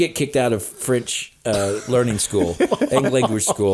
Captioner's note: laughing